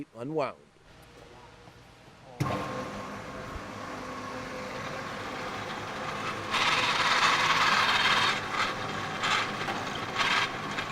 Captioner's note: machine Sounds